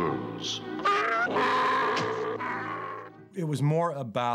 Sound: yelling

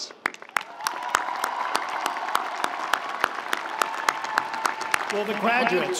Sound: audience applauding; audience cheering

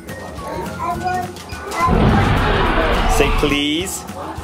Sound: dinosaur roar

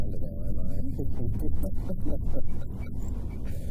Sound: laughs

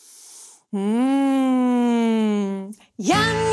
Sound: sighs

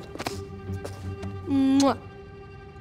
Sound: kissing

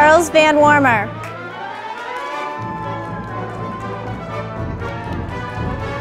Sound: audience applauding

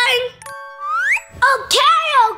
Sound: whistle sliding

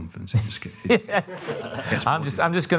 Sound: laughter

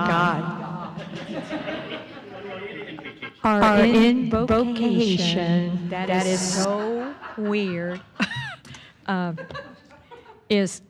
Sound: laughter

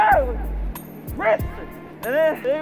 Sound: shout

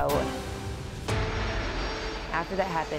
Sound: airplane engines roaring

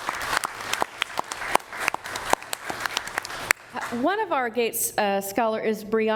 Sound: applause

